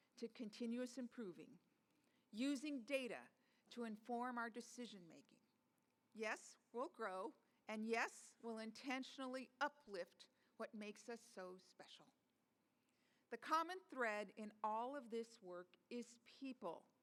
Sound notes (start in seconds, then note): none